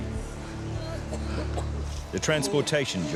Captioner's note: man wailing and coughing